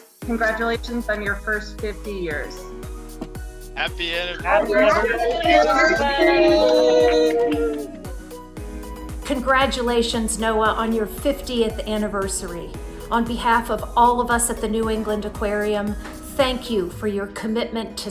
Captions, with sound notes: Congratulations on your first 50 years. Happy Anniversary! [all cheering] Congratulations NOAA, on your 50th anniversary. On behalf of all of us at the New England Aquarium, thank you for your commitment to